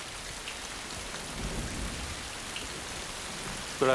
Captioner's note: thunder Rumbling